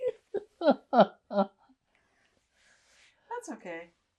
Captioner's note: laughing